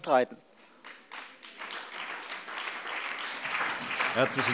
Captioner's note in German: Beifall BÜNDNIS 90/DIE GRÜNEN und DIE LINKE